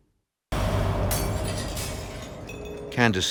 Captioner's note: swooshing; ceramic shattering